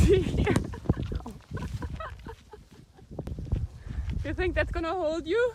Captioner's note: chuckling